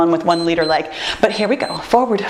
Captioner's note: timer beeps